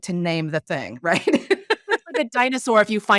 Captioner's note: laughing